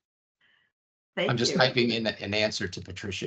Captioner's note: laughing